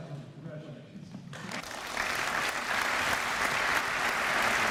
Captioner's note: applause